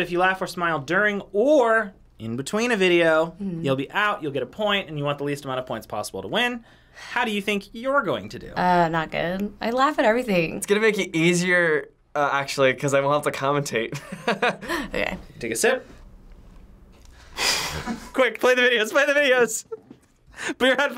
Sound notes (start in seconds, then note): 17.4 laughs